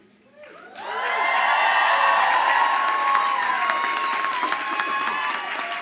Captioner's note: audience applauds and cheers